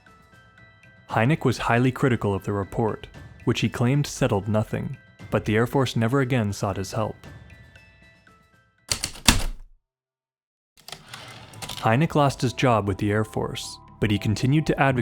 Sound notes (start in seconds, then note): 8.9 typewriter clicks and slide